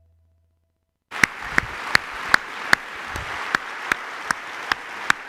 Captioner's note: applause